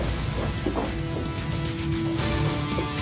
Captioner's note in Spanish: pasos apresurados